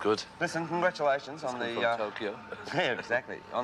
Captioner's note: chuckles